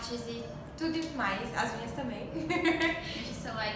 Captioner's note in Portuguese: risos